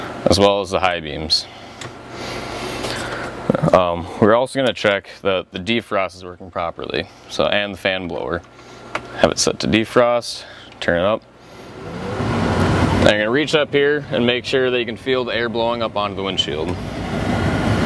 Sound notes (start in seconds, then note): 11.4 sound of air blowing